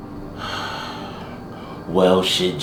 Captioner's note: Z sighing